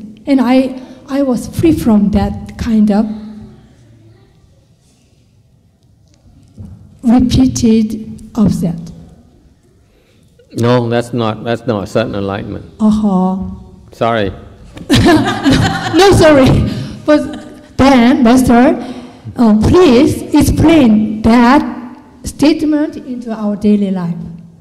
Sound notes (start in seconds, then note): 14.8 laughter